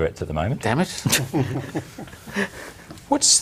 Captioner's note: laughter